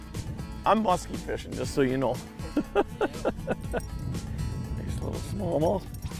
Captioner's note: laughing